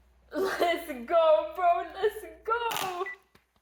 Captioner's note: laughs